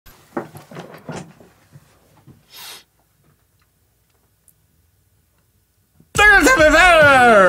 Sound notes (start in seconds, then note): 0.0 silence interrupted by a single sniff; 4.3 silence once again